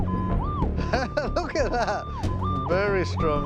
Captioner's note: laughs